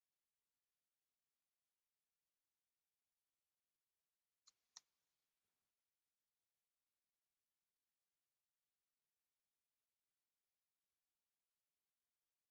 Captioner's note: observing a moment of silence